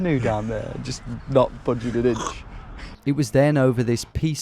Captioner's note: imitates oar grating